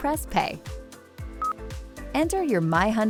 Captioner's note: system beeps